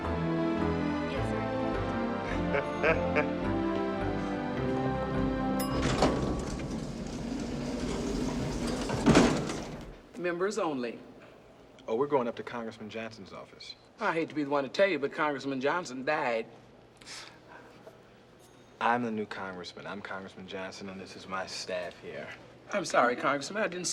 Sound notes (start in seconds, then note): 2.2 chuckling; 7.2 elevator Bell Rings